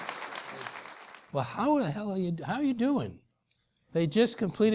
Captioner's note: applause